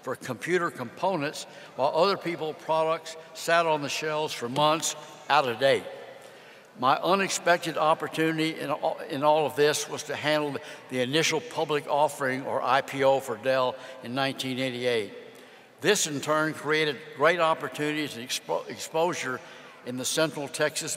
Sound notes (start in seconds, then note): none